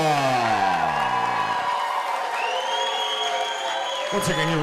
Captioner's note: audience cheering